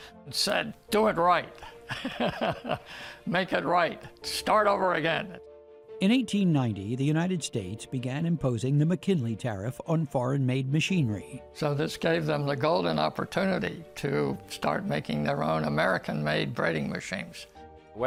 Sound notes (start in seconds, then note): 1.6 laughing